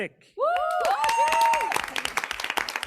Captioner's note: people cheering